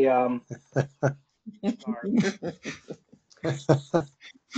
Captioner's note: both laugh